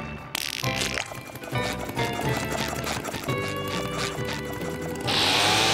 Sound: squeaky boots; blowing air

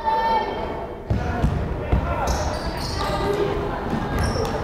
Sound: crowd chattering

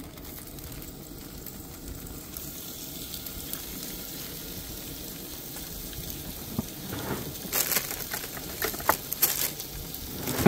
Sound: sizzling

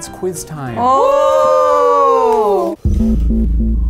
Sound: both screaming; ominous music

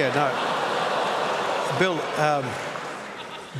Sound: laughter

